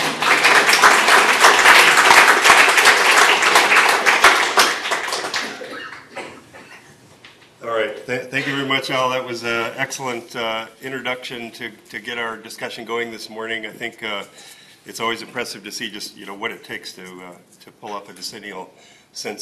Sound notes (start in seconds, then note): 3.3 applause